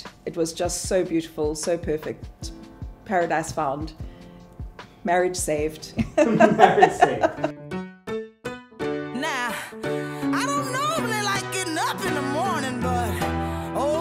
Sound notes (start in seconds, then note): 6.2 laughing; 8.0 upbeat music